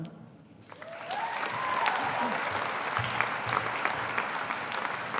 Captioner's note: audience applauding